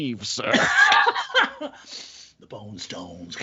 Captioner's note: laughing